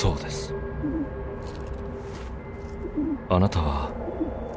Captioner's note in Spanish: arrullo de palóma